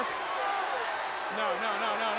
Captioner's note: crowd cheering